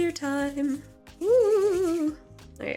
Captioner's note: ghost noises